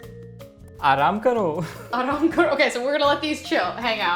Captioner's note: repeating Hindi; speaking in Hindi